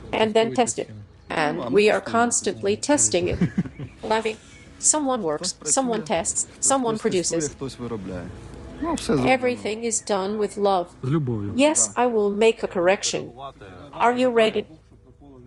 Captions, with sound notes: And then test it. And we are constantly testing it. (laughing) Someone works, someone tests, someone produces. Everything is done with love. Yes I will make a correction. Are you ready?